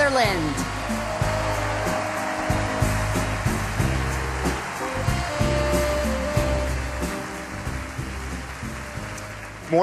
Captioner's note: applause